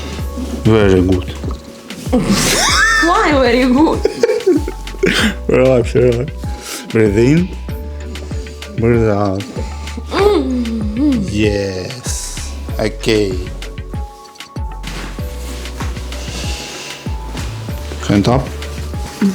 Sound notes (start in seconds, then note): 2.1 laughing